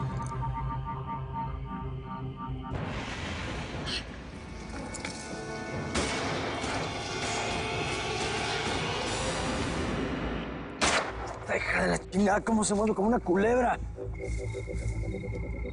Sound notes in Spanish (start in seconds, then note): 5.9 Detonación de disparo